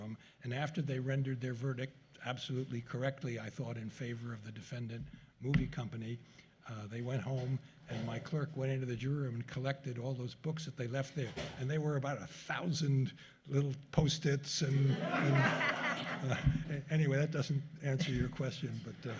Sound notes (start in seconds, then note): 14.8 laughter